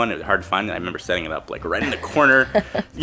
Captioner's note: laughing